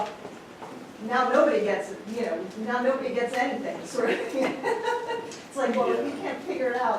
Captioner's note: laughs